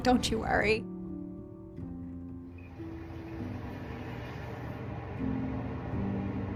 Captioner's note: gentle music; air whooshing